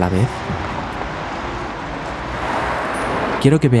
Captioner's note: traffic